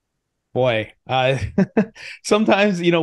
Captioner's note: laughs